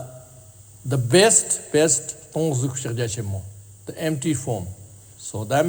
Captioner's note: tibetan